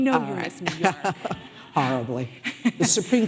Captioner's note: laughing